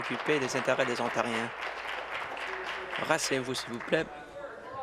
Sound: applause

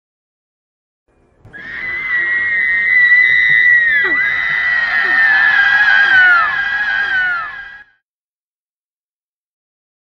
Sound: banshee scream

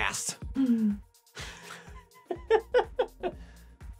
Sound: laughing

